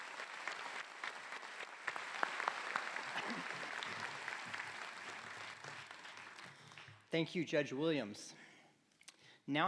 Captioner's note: applause